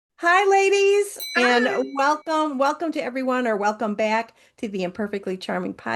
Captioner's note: bell rings